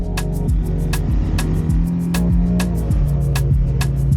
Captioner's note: bike engine